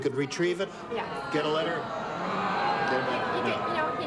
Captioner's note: audience groans